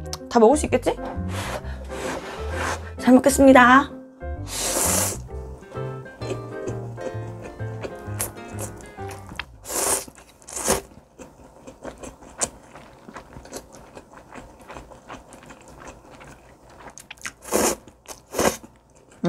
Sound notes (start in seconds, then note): 11.5 eating